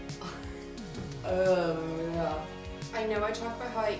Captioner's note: groans